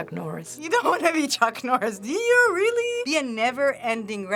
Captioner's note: laughing